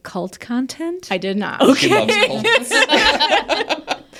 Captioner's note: laughing